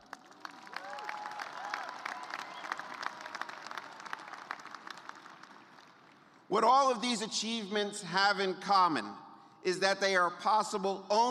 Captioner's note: cheers and applause